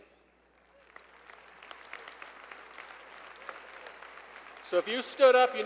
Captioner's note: applause